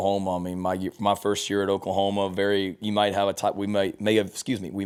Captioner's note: stutters